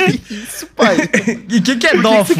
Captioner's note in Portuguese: risos